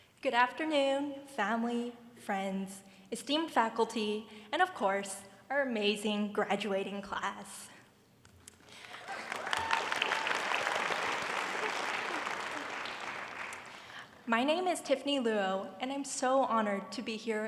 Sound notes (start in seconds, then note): 8.8 cheering and applause